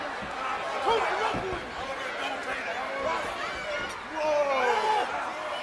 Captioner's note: wrestlers shouting